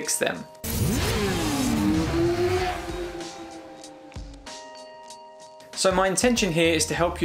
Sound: soft music; motorcycle engine roaring

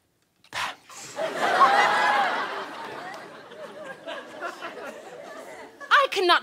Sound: audience laughter

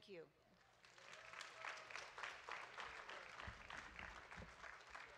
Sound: audience claps

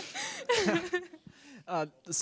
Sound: laughter

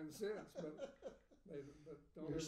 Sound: laughing

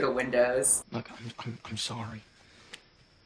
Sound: stammers

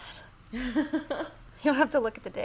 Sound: laughing

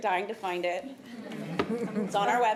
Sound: laughter

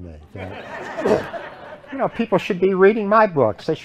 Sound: laughter

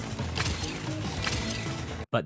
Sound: sh-kck

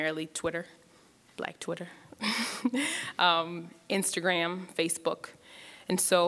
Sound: laughs

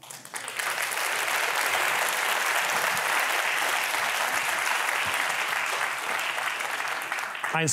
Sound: applause

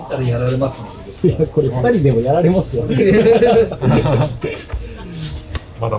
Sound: laughs

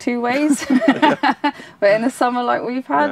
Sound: both laughing

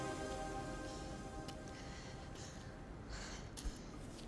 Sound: panting

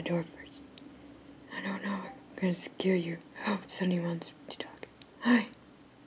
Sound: Discord Beep

